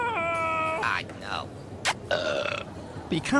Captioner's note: blows a kiss & burps